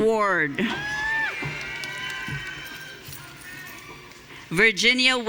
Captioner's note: audience cheering